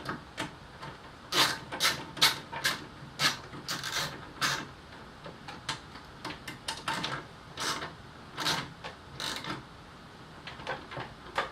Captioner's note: ratcheting noises